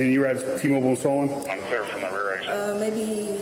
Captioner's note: radio chatter